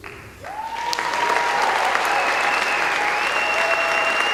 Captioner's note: applause